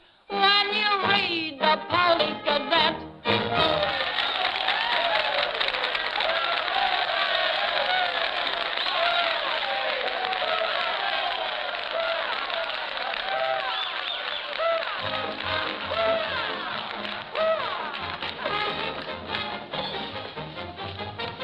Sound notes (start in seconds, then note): 3.7 men cheering, applauding; 14.8 lively dance music